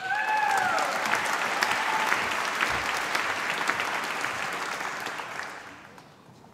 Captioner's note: applause